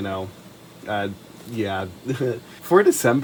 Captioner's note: giggles